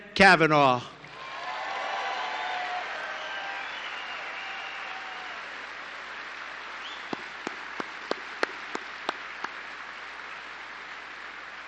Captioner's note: applause